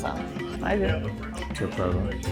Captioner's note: Turkish